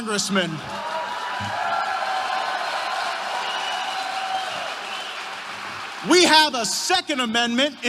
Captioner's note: applause